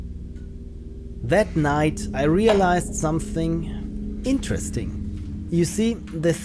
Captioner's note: narrating